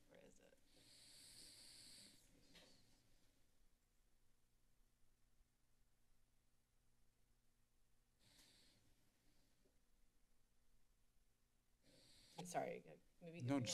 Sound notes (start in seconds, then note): 2.1 silence